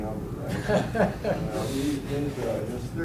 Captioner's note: students chuckle